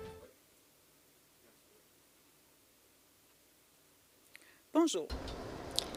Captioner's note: silence